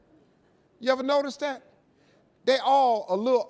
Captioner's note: audience laughing